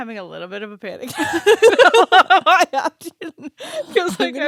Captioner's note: laughing